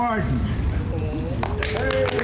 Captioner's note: applause